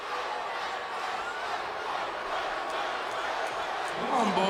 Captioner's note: chants "Fight"